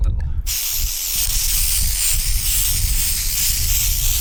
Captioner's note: spraying